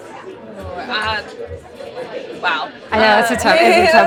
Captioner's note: laughing